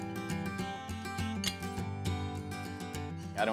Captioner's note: horseshoe clanking